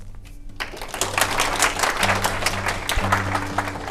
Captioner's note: applause